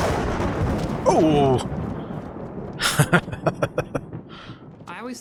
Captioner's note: chuckling